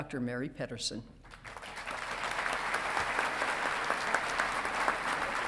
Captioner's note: audience clapping